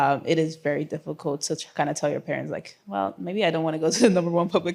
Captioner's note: none